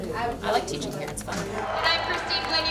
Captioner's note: applause